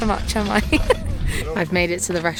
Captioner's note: giggles